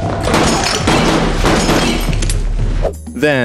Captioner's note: gunshots